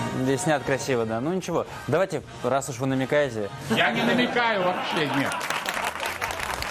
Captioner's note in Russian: аплодисменты